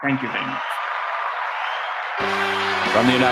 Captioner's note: applause